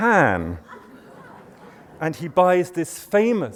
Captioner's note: laughter